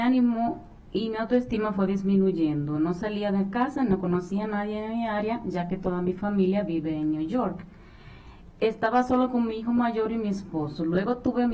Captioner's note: speaking spanish